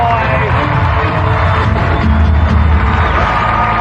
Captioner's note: cheering and applause; dramatic music